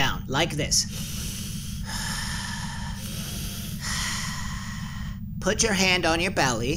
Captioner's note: Philo breathing calmly